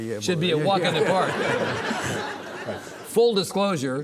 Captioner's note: audience laughing